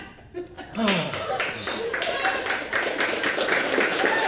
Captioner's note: audience applauds